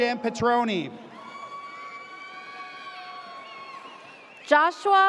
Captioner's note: audience cheers